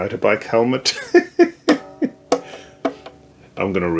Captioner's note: laughter